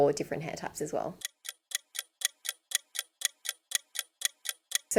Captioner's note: clock ticking